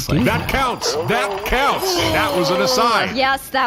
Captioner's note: shouting